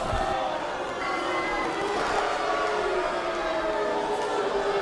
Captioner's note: crowd shouting boos